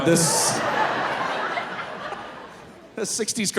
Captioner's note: audience laughing